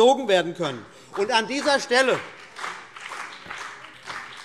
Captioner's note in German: Beifall BÜNDNIS 90/DIE GRÜNEN und vereinzelt CDU